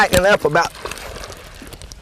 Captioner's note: splash